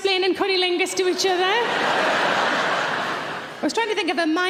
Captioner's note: audience laughing